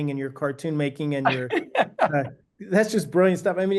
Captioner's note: laughing